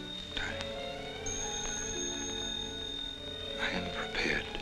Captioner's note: phone ringing